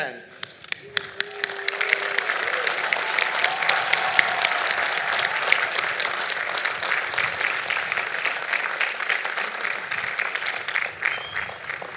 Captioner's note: applause